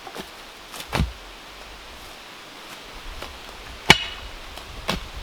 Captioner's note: tool thumping